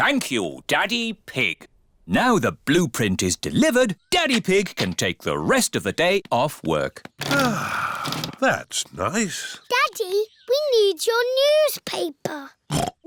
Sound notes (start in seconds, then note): 7.2 sighs